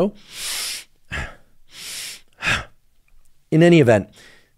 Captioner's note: hyperventilating